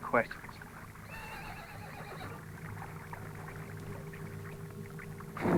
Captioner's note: horse neighs